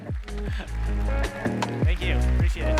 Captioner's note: applause; soft music